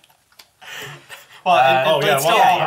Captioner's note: all laugh